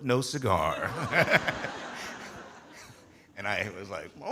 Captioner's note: audience laughing